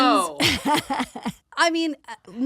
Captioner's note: laughs